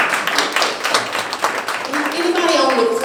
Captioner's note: clapping